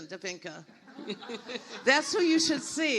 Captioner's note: everyone laughs